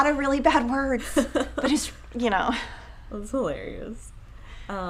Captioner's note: chuckles